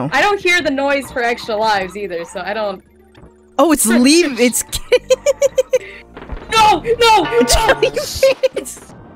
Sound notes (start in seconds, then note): 4.7 laughing